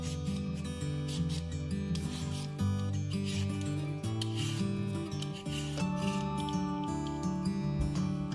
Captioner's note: peeling sound and music